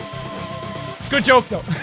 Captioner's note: laughter